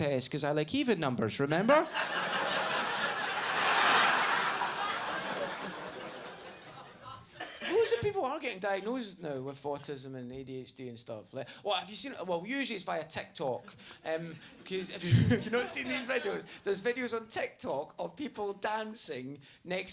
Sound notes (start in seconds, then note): 1.5 audience laughs